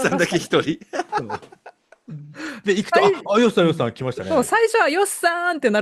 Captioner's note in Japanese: 笑い